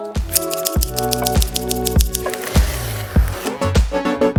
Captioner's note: scissors snipping; upbeat music